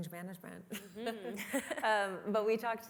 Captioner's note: laughter